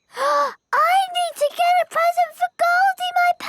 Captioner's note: gasps